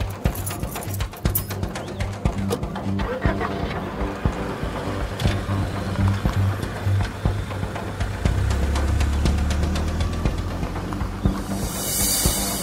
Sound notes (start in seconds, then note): 2.4 engine ignites; 8.7 percussive music continues